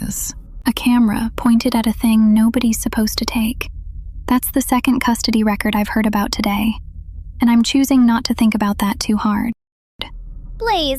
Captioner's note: whispers